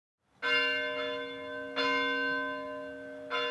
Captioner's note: bell ringing